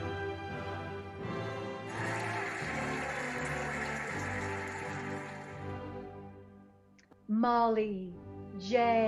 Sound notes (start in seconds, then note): 1.8 cheering and applauding